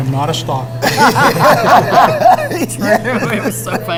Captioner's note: laughing